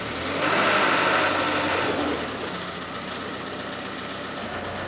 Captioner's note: telehandler engine revving